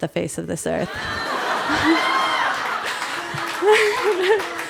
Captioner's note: audience laughter